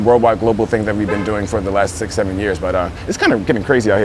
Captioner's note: car horn beeps